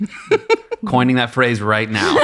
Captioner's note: laughing